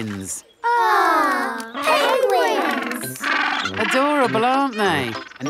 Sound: penguins chatter

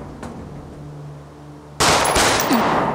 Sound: gunshots; tension music continues

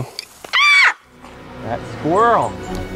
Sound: short scream

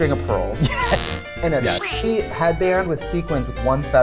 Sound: laughs

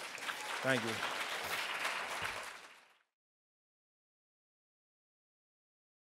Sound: applause

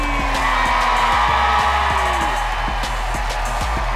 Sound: cheering

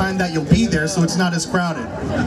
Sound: crowd laughs

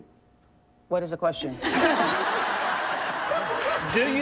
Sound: audience laughing

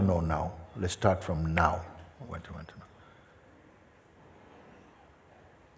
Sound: clicks fingers

